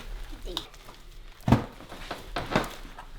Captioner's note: banging